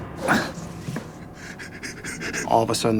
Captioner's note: sobbing